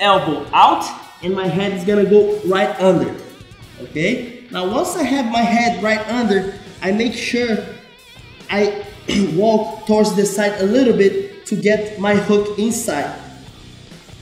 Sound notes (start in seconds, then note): 9.0 clears throat